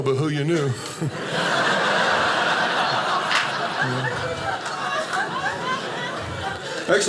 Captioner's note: audience laughing